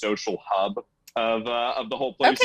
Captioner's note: group laughing